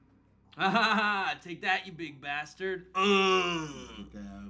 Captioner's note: laughs